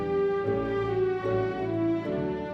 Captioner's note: none